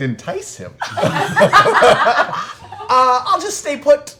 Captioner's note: laughter